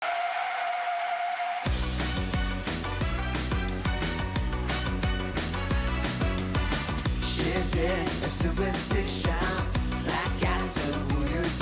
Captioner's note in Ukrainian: оплески